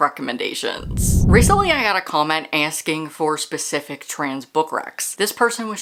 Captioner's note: whoosh